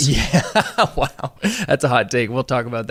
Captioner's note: laughing